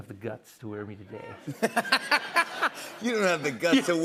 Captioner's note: laughter